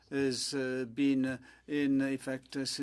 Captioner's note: speaking French